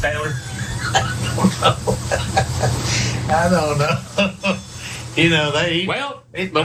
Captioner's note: laugh